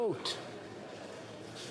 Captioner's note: speaking French